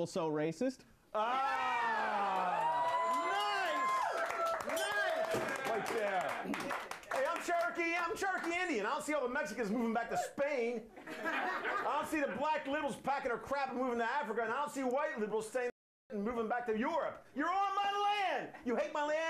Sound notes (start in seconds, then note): 6.3 audience cheering; 6.7 bell rings